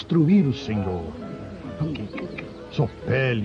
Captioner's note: tsks